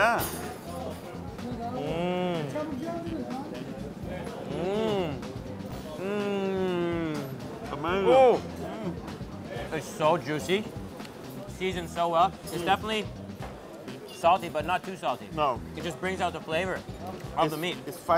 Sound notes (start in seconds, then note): 1.9 delighted hum